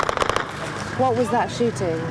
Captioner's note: gun firing in distance